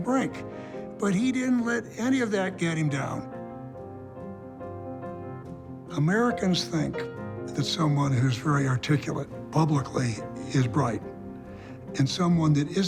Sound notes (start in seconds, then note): none